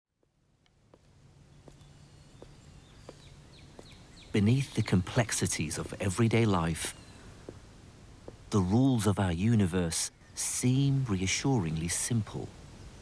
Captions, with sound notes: - [Voiceover] Beneath the complexities of everyday life the rules of our universe seem reassuringly simple.